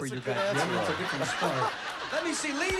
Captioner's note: laughter